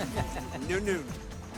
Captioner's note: man laughs